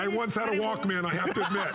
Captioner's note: laughter